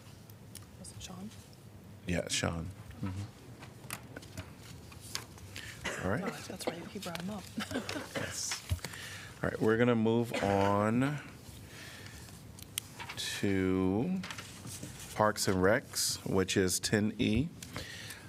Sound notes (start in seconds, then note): 7.6 laughter